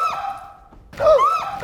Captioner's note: loud pop; shrieks; gasps